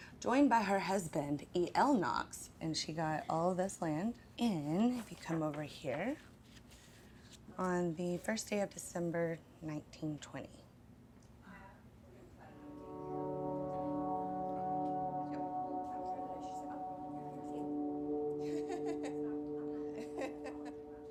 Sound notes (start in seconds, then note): 12.4 gentle music; 16.0 people chattering and laughing